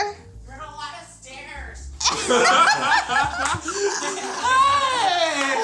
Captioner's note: all laugh